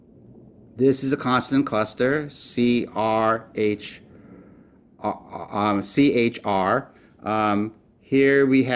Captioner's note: in English